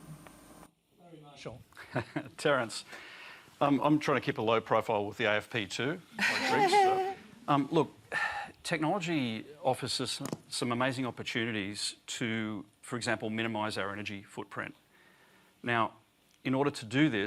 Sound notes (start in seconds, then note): 6.2 laughter